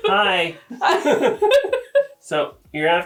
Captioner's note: both laughing